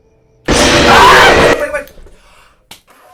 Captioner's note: shouts